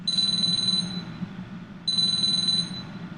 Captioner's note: phone ringing